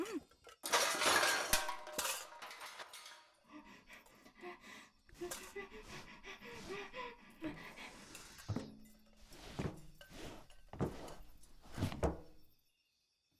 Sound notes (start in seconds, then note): 3.4 etta breathes heavily